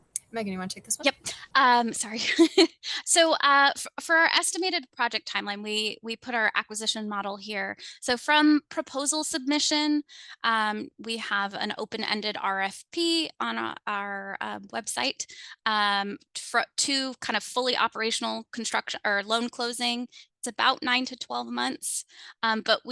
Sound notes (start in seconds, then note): 2.8 laughs